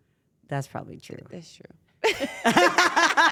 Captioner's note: laugh